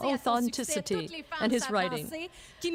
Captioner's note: speaking French